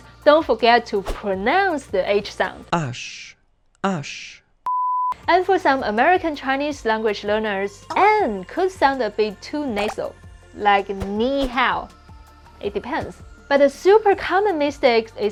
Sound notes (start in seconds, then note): 2.8 man speaking in French